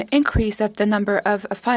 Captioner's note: speaking in French